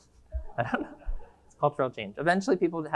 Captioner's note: laughs; audience laughing